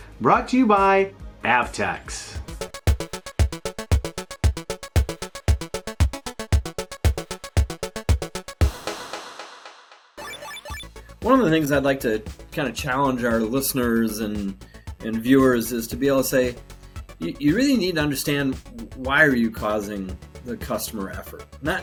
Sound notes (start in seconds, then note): 2.2 upbeat music; 10.2 buzzing sounds; 11.2 upbeat music